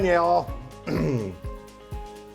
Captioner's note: clearing throat; upbeat music